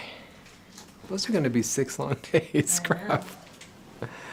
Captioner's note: laughing